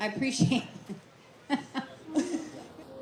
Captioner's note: presenter laughs